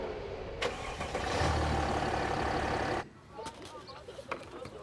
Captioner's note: engine revving